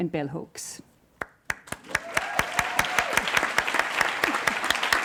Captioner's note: audience applauds and cheers